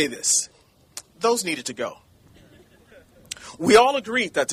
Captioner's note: chuckling